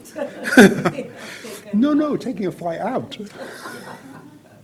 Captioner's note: laughs